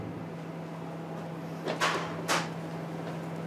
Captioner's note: clattering